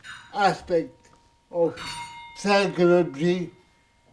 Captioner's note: bell chime